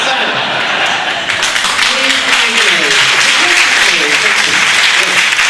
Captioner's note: audience laughs and applauds